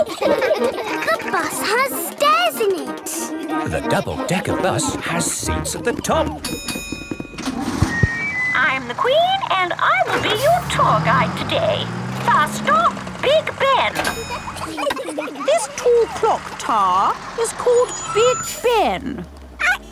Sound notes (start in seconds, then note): 0.0 kids laughing; 6.3 bell dings; 14.6 kids giggling